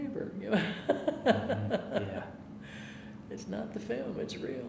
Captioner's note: laughing